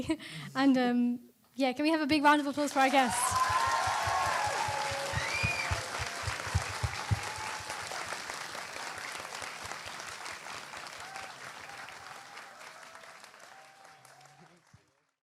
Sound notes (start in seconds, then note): 2.5 applause